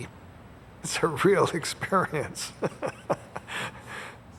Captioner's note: laughs